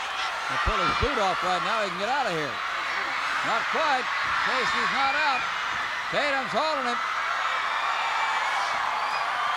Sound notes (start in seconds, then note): 3.8 crowd cheers